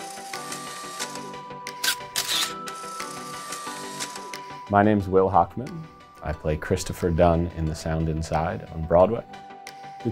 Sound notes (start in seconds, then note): 0.2 mellow music; 0.2 camera shutter clicking